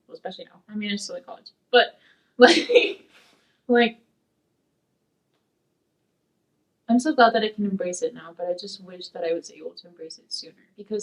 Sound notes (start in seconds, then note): 2.4 laughs